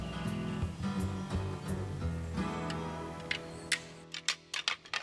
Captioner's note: antlers clicking